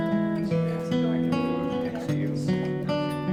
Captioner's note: speaking faintly